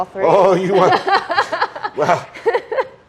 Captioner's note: laughs